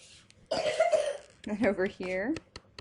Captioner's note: student coughs